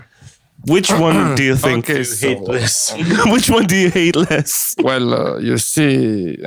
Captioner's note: clears throat